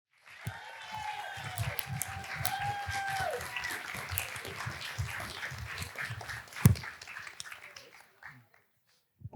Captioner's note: applause; cheers